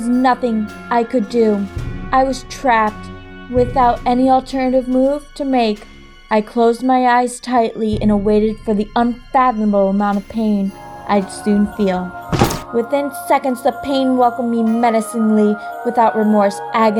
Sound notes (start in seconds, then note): 12.3 chop!